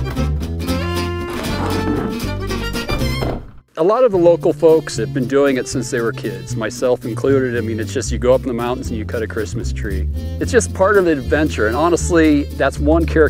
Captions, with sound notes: (doors slam) - A lot of the local folks have been doing it since they were kids, myself included. I mean, it's just you go up in the mountains and you cut a Christmas tree. It's just part of the adventure and honestly that's one characteristic about Wyoming people,